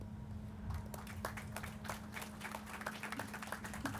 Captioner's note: crowd applauding